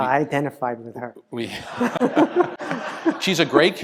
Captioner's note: laugh